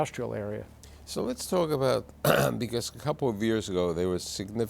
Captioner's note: clears throat